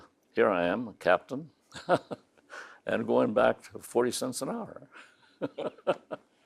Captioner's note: laughing; laughs